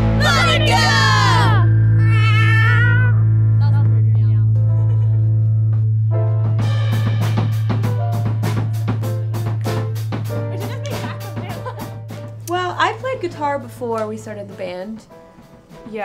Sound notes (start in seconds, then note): 4.7 laughs